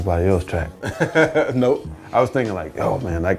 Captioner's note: laughs